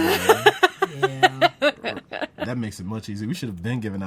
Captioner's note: laughs